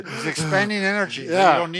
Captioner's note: breathes heavily